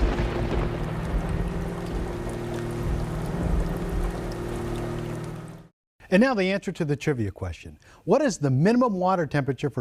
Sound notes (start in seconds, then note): 1.6 thunder rolling; 3.8 rain falling